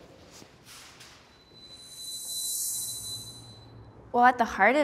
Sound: bell ringing

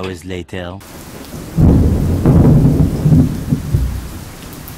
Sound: thunder rumbles

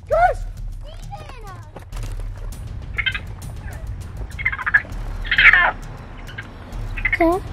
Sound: raccoon Sounds

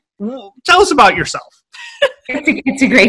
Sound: laughing

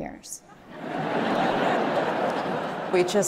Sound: audience laughing

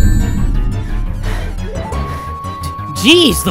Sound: slamming, rings scattering; panting

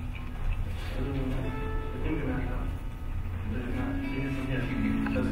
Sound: speaking off mic

